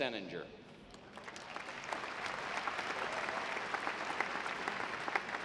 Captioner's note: audience clapping